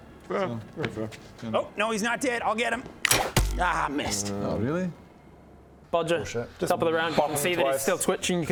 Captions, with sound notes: yeah, that's fair Nope, no he's not dead, I'll get him *twang thunk* Ah missed oh really? - Bodger - bullshit top of the round just bop him twice you can see that he's still twitching